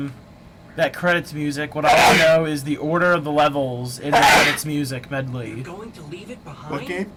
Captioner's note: sneezes very loudly